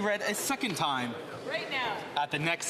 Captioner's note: speaking Alternate Language